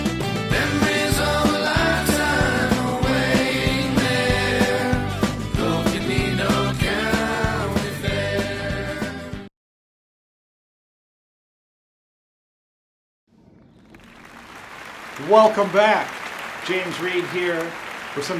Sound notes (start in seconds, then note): 13.9 crowd applauds